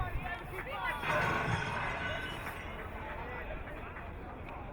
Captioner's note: glass shattering